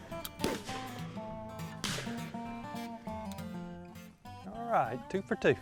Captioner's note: loud sporadic gunfire